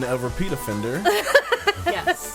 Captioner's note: laughing